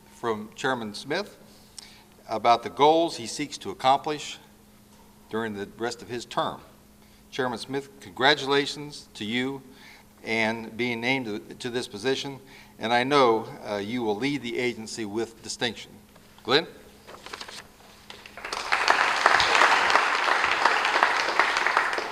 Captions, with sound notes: from Chairman Smith, about the goals he seeks to accomplish during the rest of his term. Chairman Smith, congratulations to you and being name to this position. And I know you will lead the agency with distinction. Glen. (Applause)